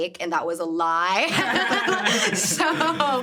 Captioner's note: everyone laughing